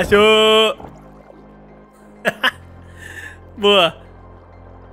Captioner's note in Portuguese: risos